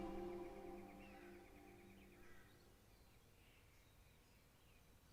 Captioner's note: birds tweeting